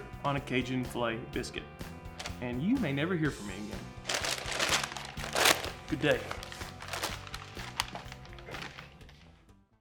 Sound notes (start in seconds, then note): 4.0 bags crinkling; 5.3 upbeat music